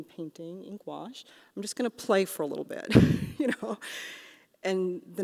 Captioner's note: laughs